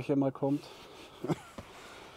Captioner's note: laughs